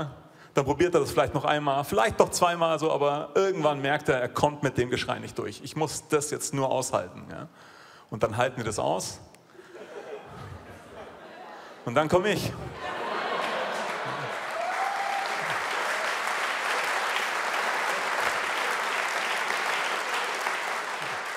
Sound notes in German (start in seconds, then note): 12.7 Lachen; 14.6 Jubel, Applaus